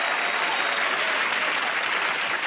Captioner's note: cheers and applause